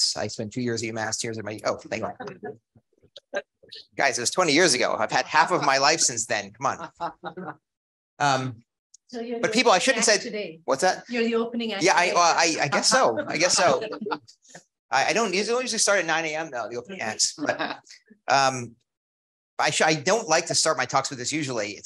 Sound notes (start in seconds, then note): 6.6 audience laughs; 12.1 audience laughs